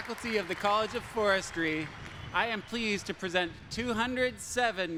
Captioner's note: applause